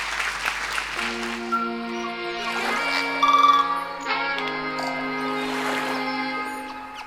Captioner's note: audience applauding; relaxed music; waves splashing